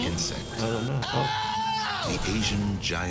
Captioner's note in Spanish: Dave gritando